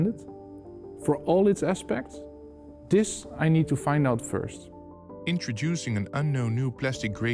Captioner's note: voiceover